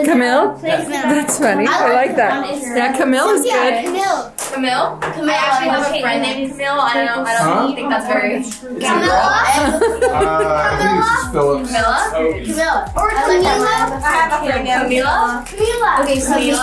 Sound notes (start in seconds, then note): 9.4 mom laughing